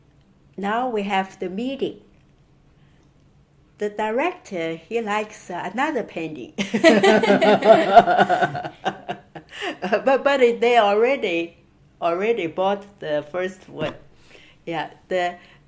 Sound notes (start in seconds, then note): 6.7 all laughing